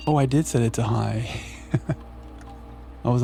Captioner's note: laughs